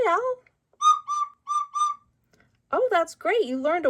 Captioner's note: owl hoots